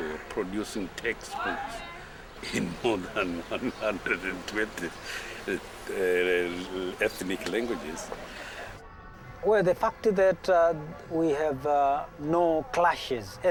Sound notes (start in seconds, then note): 2.4 laughing